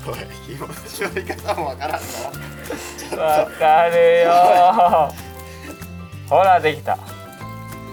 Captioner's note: laughs